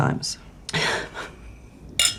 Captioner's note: chuckles